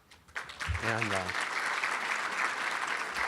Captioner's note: applauding